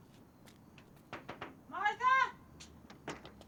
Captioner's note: knocking at door